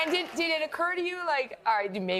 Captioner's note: laughter and applause